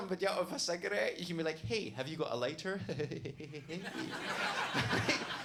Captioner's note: chuckling; audience laughs